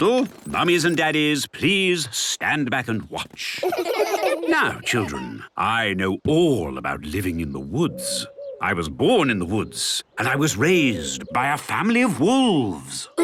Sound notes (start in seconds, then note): 3.5 laughter